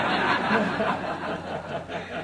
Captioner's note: chuckles